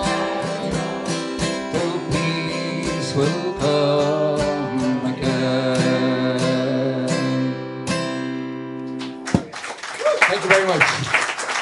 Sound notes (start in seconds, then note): 9.0 applause